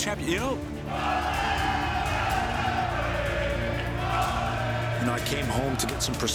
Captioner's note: crowd cheering